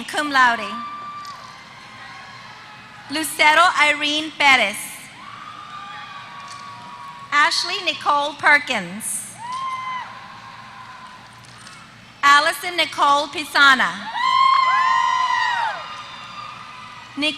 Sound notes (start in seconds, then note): 1.5 applause; 5.8 applause; 10.6 applause; 15.5 applause